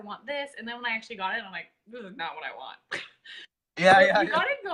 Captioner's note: laughs